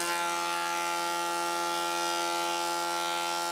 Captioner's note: loud drilling